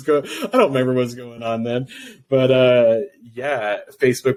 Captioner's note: laughs